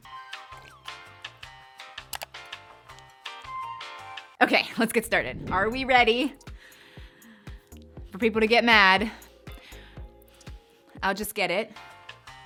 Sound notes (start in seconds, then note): 0.0 upbeat music; 2.0 keyboard clicking